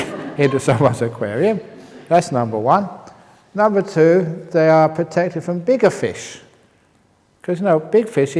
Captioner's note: laughs